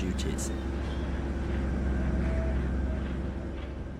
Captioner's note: ship's engine